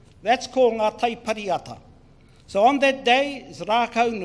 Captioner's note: speaks in foreign language